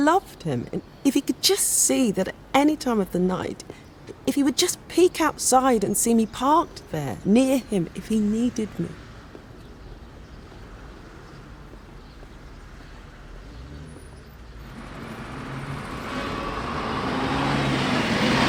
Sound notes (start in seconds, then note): 13.0 bus engine rumbling